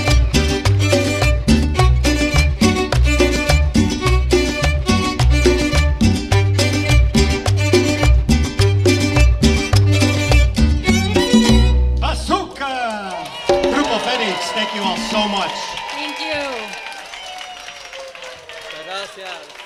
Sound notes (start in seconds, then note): 12.4 speaking in Spanish; 17.7 attendees clap and cheer